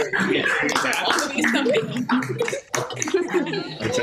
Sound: graduates cheering; graduates chattering

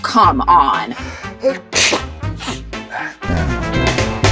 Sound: sneezes

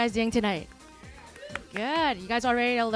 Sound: crowd cheering

